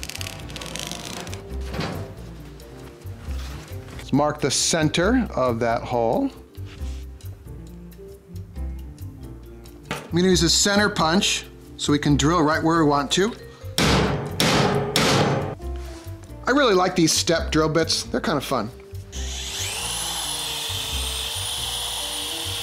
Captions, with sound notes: (upbeat music) let's mark the center of that hole. I'm gonna use a center punch, so we can drill right where we want to. (banging metal) I really like these step drill bits, they're kinda fun. (drill whirring)